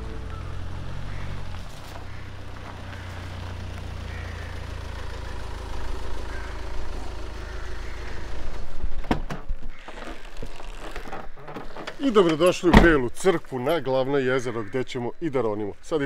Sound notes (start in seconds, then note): 3.0 engine sound